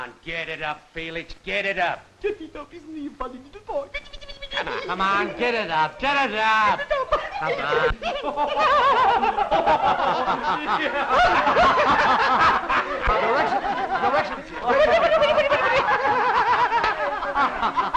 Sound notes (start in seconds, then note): 2.2 humming; 7.9 laughing; 15.0 laughing